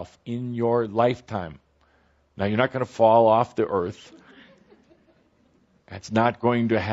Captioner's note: laughter